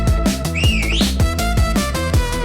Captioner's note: whistle